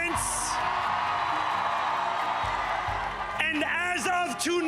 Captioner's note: cheers and applause